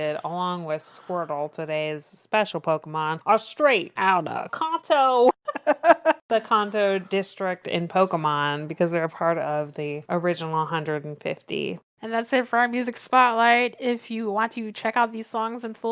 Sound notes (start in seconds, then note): 5.4 laughs